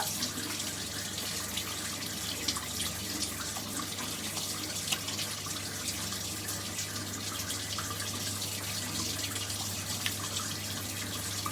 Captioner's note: washing hands